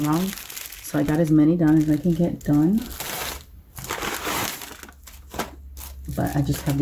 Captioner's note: bag crinkles